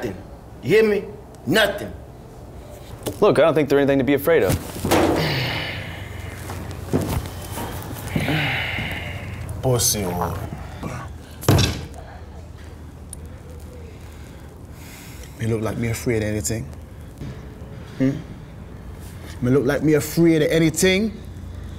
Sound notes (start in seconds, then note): 4.9 growls; 11.5 fist thuds